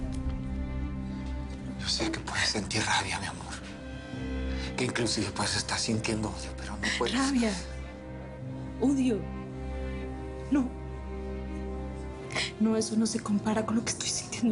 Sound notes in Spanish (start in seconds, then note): none